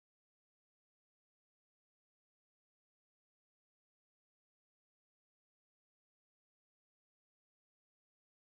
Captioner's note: none